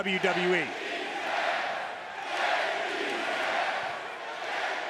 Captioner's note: audience chanting